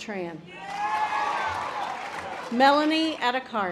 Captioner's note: audience applause